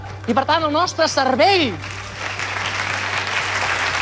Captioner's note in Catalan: aplaudiments